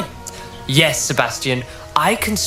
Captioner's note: sarcastic